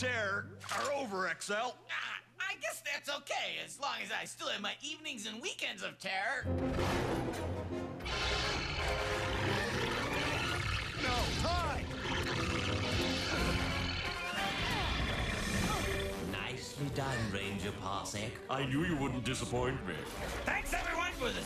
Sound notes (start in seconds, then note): 7.7 growling; 10.6 gasps